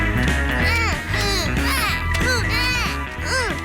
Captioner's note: both grunting